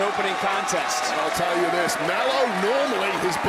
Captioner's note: crowd cheers